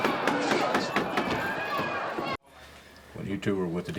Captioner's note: gavel continues banging; crowd continues clamoring